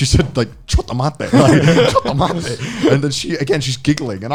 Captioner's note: speaks in foreign language